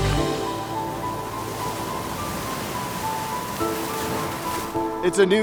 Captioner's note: waves crashing; gentle piano music